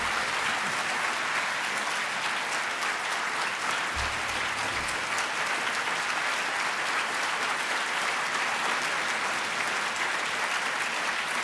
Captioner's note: applause